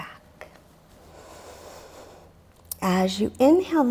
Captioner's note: deeply exhales